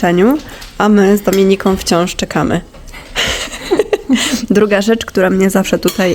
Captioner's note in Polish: śmiech